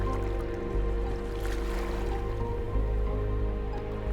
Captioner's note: melancholy music; water rippling